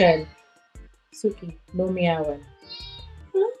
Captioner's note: cat meows